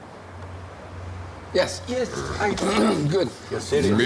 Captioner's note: clears throat